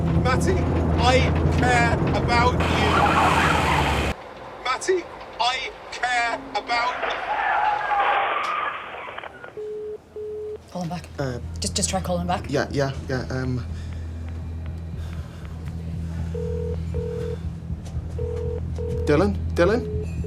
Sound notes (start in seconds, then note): 6.7 tyres squeal, crashing; 16.3 outgoing dialtone